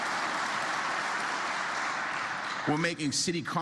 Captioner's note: applause